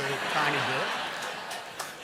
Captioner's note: laughter